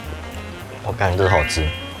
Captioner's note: German